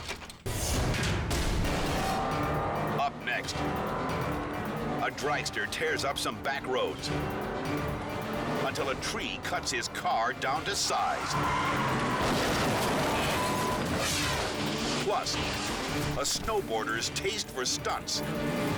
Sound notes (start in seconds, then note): 0.1 dramatic music; 11.1 car crashing; 11.3 tires screeching